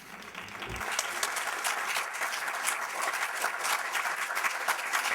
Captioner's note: class applauds